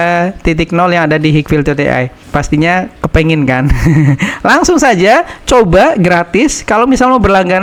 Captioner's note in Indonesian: tertawa